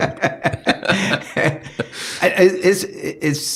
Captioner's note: laughing